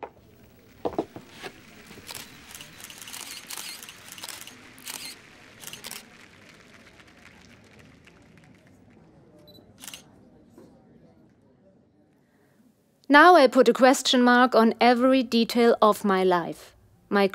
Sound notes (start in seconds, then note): 1.9 cameras clicking; 1.9 crowd applauding